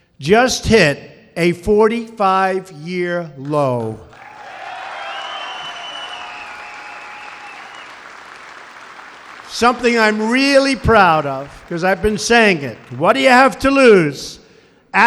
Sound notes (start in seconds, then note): 3.4 applause